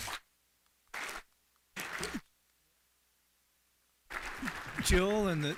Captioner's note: applause